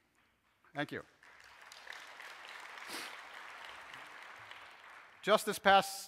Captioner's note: audiences applauses